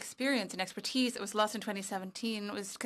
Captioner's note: speaking French